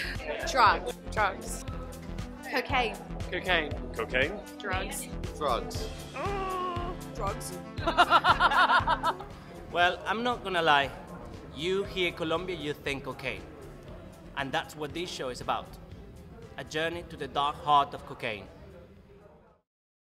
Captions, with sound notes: Drugs. Drugs. Cocaine. Cocaine. Cocaine. Drugs Drugs Drugs. (Laughs) Well I'm not gonna lie, you hear Colombia you think 'Cocaine'. And that's what this show is about; a journey into the dark heart of cocaine.